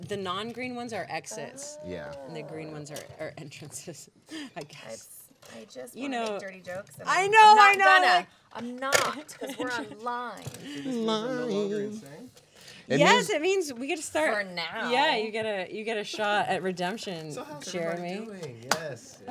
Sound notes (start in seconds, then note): 6.1 chattering